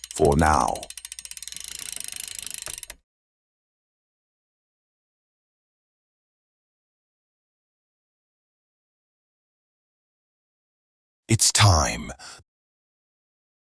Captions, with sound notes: For now. [no noise] It's time.